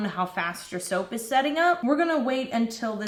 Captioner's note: none